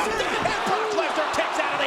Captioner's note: audience groans